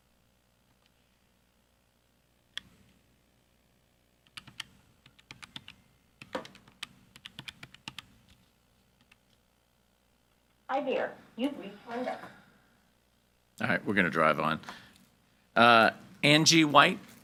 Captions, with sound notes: - [Machine Voice] Hi there. You've reached Linda. - All right, we're gonna drive on. Angie White.